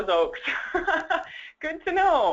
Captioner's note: laugh